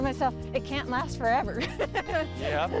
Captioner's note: laughs